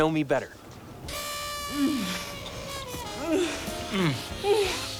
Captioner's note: both moaning